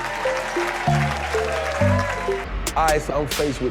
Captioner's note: congregation applauds